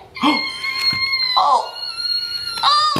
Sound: balloon pops; shocked sound; balloon deflates

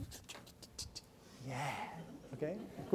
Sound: participants laugh

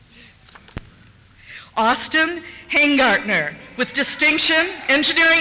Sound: cheers

